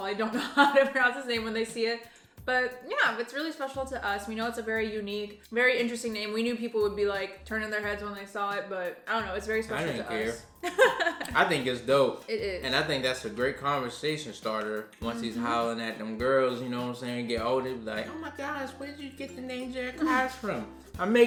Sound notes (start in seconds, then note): 10.6 laughing